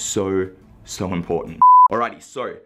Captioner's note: beep